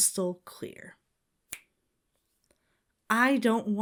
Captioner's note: Bill snaps fingers